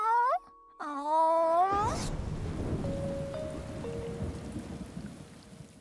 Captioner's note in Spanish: Pearl balbucea preocupado; Sonido de tormenta